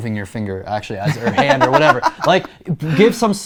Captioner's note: laughing